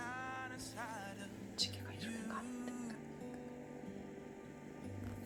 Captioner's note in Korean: 소근소근